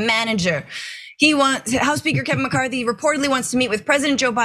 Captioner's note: laugh